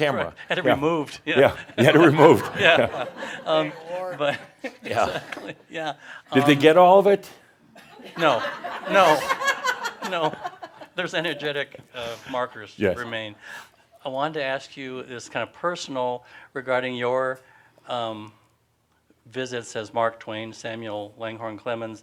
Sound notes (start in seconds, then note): 1.3 they chuckle; 8.6 some laughter